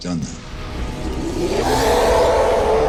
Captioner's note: roaring